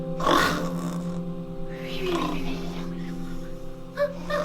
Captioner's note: snoring